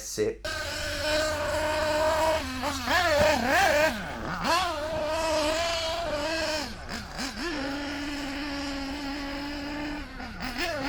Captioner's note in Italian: engine sound